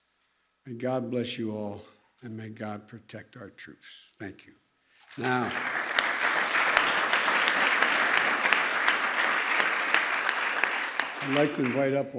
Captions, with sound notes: May God bless you all. And may God protect our troops. Thank you. (Applause.) Now, I'd like to invite up,